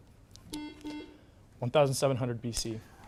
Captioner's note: buzzer beeps